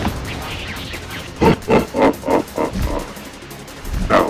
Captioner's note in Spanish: Risa amenazadora